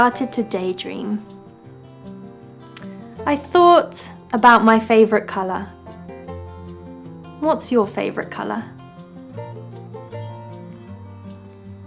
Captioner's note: chimes